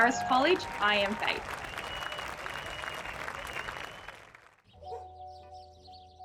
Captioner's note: crowd clapping; gentle piano music